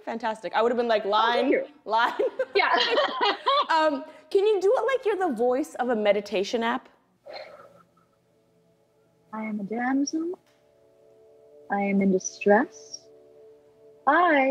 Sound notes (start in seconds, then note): 2.1 laughter; 7.2 exhales